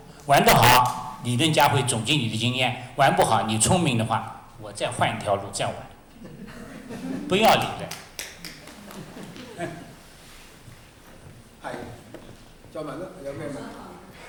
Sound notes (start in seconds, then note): 6.1 laughter; 7.4 audience clapping; 12.2 Cantonese